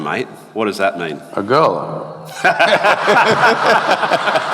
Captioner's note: laughter